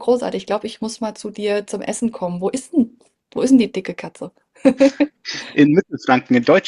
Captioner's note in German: gelächter